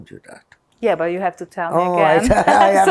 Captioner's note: laughing